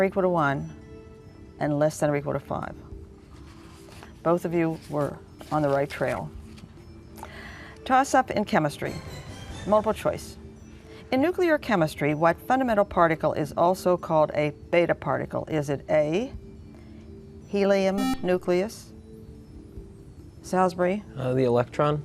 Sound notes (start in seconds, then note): 17.9 buzzer